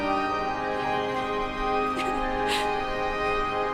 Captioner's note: sobbing